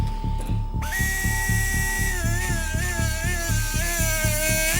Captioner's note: machine buzzing